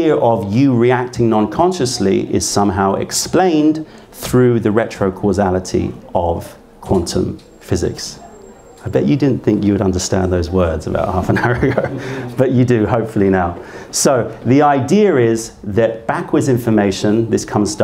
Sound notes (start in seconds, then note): 11.2 laughter